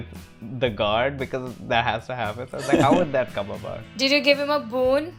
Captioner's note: laughter